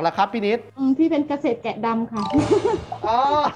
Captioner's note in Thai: หัวเราะ